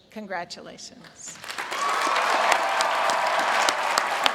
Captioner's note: applause